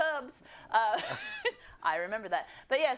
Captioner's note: laugh